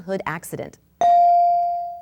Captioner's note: bell dings